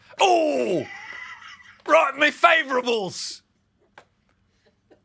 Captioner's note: high british accent